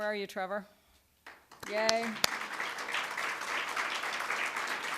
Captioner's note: applause